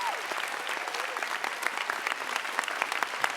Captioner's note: applause